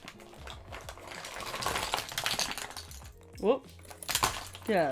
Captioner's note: makeup objects clanking